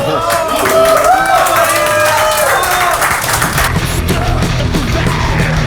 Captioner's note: cheers and applause